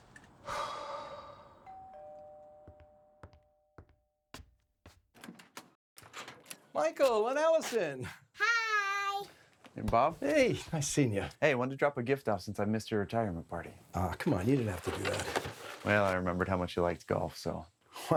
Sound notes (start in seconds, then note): 0.4 Hope sighing; 1.6 doorbell ringing